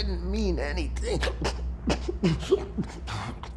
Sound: struggling to breath

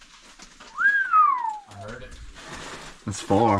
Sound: whistle

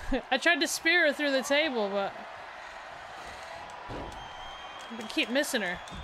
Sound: applause; applause

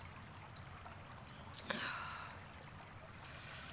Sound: Angela sighs

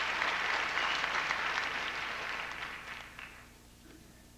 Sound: applause

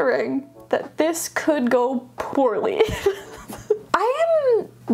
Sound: laughing

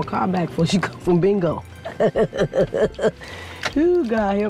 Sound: laughing

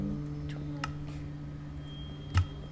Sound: click

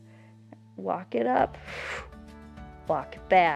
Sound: exhales

